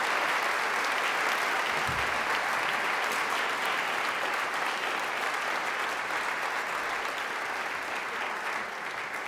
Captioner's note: applause